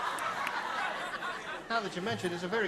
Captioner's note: laughter